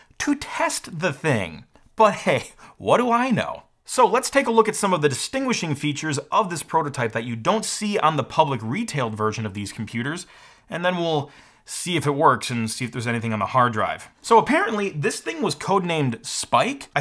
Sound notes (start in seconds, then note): none